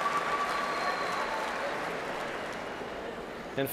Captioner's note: cheers and applause